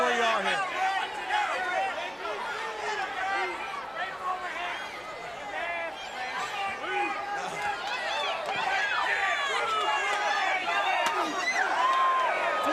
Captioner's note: crowd chatter